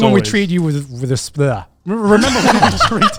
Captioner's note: stuttering